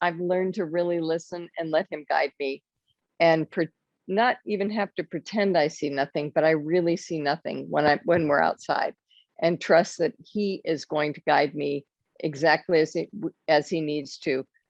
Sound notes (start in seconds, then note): none